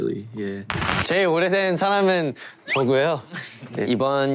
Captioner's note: speaks korean